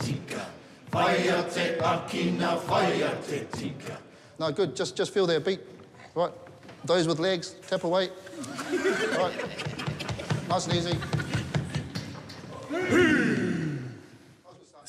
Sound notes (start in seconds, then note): 8.4 all laugh